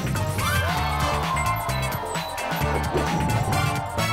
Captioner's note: crowd cheering